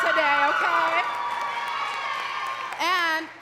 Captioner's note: crowd cheering and clapping